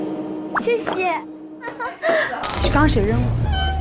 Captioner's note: giggling